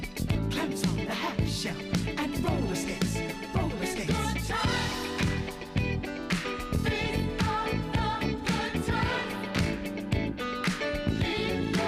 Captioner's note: applause